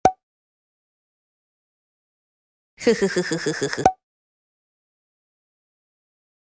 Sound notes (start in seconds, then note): 2.8 woman giggles